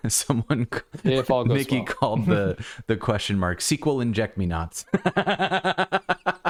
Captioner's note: laughter